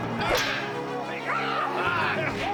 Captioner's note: yelling